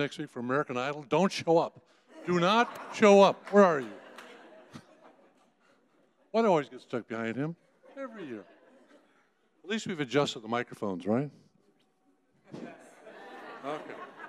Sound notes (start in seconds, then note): 2.1 audience laughing